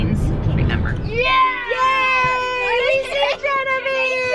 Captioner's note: kids cheer